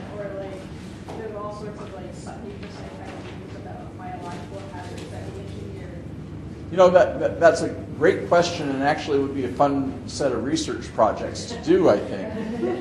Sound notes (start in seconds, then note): 2.6 faintly speaking